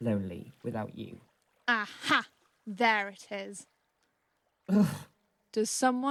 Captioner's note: sighs